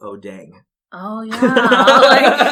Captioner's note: laugh